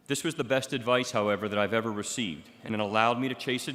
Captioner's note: none